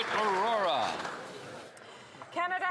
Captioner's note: some Applause